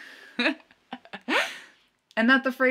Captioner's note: chuckling